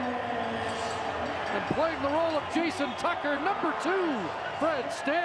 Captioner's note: cheers and applause